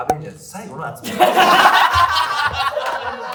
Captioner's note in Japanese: 笑い声